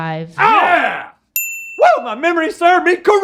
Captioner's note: Rhett and Link cheer